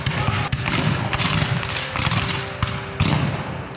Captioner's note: guns fire